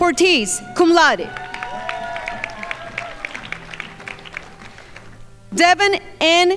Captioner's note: crowd applauding